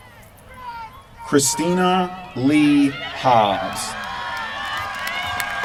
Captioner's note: applause